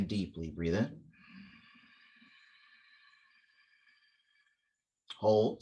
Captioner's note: inhale